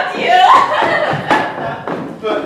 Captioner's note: barbie loudly sobs